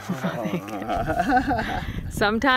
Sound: laughs

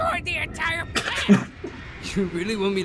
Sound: Musky laughs

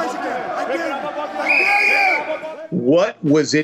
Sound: whistle blowing

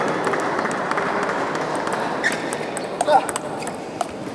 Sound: applause

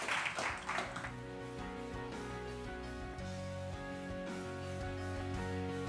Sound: applause

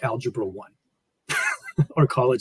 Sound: laughs

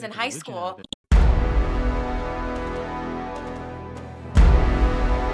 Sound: mouse clicking; dramatic chord

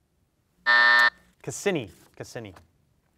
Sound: buzzer sounds

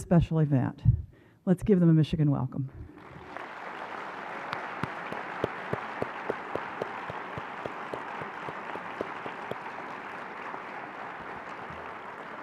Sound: applause

